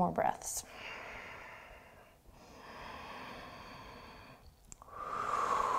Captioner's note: deep breathing